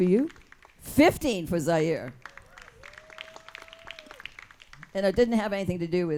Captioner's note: audience claps and cheers